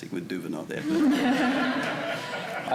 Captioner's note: audience chuckling